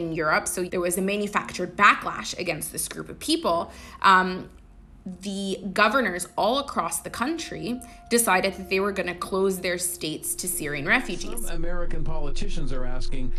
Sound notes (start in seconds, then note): 10.1 soundbite of archived recording